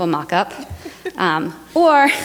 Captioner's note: laughter